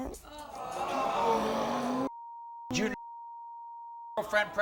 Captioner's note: audience groans; beep